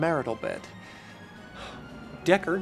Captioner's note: sigh